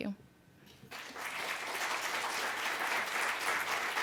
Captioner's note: applause